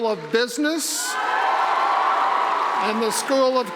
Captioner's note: cheering